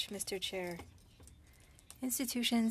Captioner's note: speaking French